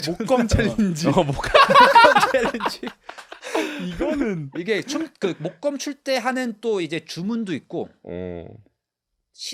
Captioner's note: laughs